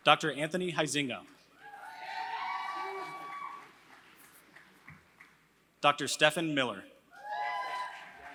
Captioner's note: applause; applause; applause